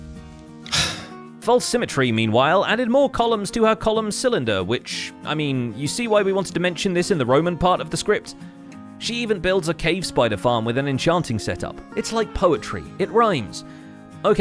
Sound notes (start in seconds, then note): 0.6 sigh